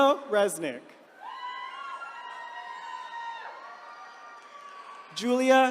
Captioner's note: attendees cheering